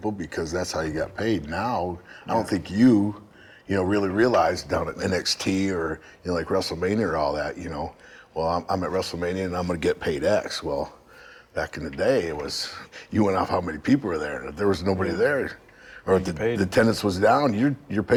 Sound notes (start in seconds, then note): none